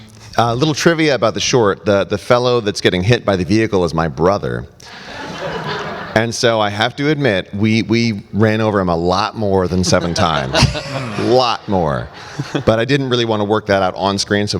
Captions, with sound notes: Little trivia about the short, the fellow that's getting hit by the vehicle is my brother. (audience laughs) And so I have to admit, we ran over him lot more than seven times, lot more. But I didn't really wanna work that out on screen.